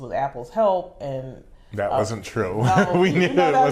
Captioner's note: laughing